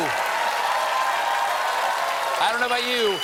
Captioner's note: applause